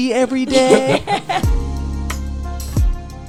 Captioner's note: laughing; chill music